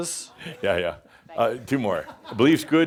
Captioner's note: chuckles; deep voice